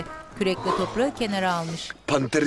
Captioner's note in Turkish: Nefes sesi